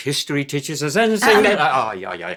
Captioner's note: Danny's totally spontaneous "shut-up" cough